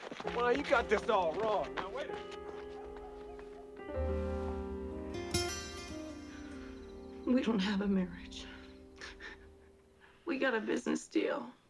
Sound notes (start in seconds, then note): 7.5 crying; 9.0 sobbing